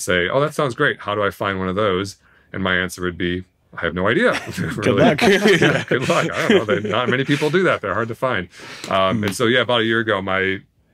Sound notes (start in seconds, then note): 4.3 laughs